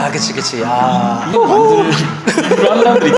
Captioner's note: laugh